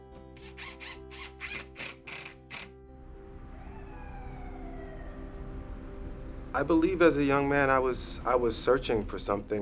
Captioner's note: police sirens wailing